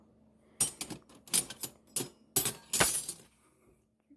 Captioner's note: sound of flatware shuffles around